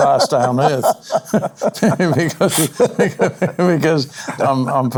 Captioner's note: laughing